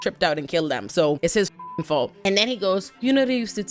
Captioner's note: beep